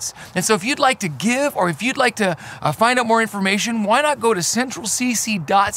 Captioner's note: none